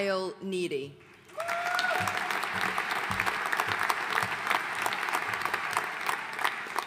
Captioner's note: audience cheering and applauding